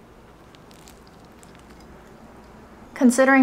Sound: food crunching

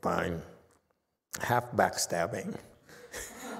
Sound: laughs, audience laughs

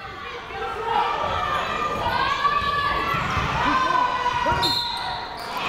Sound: people shouting in the crowd; whistle tweeting

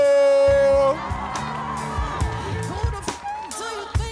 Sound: audience cheering

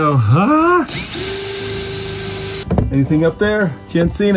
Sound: drilling

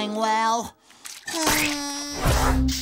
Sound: groaning

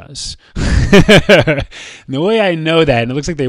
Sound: laughs

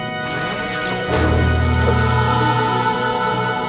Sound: vrrrrr

